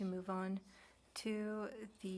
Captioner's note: speaking French